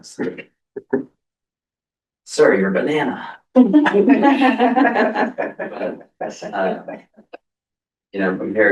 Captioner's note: laughter